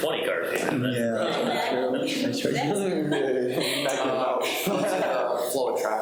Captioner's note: people laughing